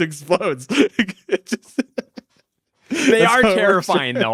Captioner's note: person laughing